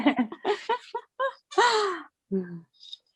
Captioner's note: laughter